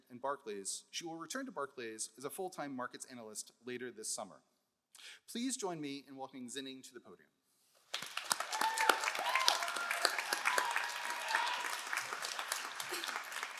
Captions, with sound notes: and Barclays, she will return to Barclays as a full-time markets analyst later this summer. Please join me in welcoming Zining to the podium. (all applauding)